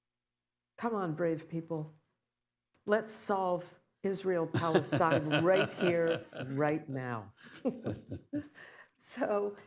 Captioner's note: laughter